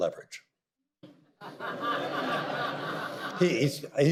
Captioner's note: audience laughter